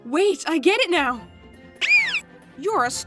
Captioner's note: Startled Star noise